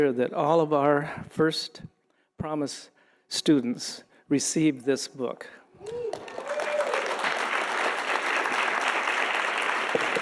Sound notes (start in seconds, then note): 5.8 audience applauding